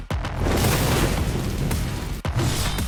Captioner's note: bang